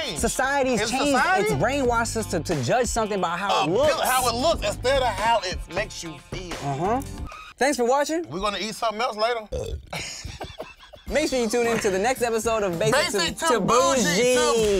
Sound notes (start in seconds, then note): 8.1 laughs; 9.4 burping